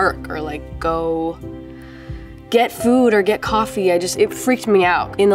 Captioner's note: none